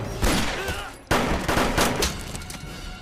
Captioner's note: man grunting; guns firing